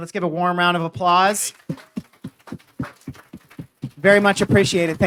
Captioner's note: hands clapping